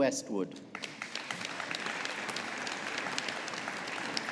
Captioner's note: audience applauding